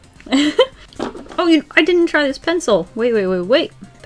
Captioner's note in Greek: Γέλια